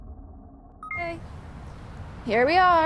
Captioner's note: phone chimes